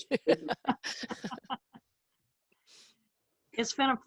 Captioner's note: laughing